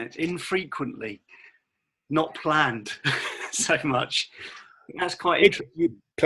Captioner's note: laughing